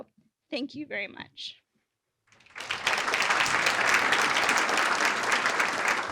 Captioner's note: applause